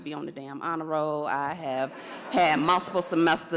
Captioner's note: audience laughs